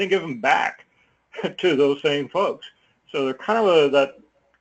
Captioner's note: laugh